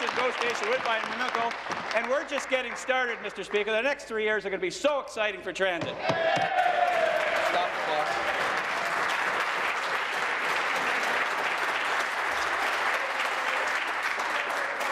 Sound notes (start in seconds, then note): 1.6 applause; 10.1 applause; 10.9 cheering